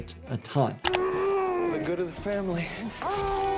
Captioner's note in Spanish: persona gimiendo